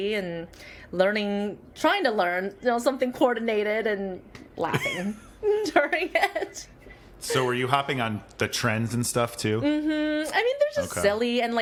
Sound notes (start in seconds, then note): 6.2 laughing